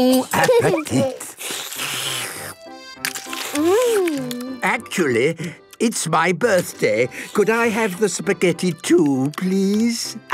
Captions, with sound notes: - Bon appetite! - (slurping) Mmmm! - Actually, it's my birthday. Could I have the spaghetti too, please?